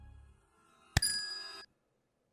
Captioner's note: bell rings as pillow hits; music abruptly stops, becoming completely silent